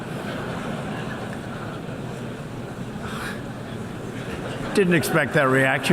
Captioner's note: laughter